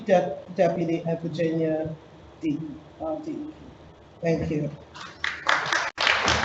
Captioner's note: audience applauds